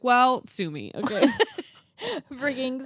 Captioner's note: both laugh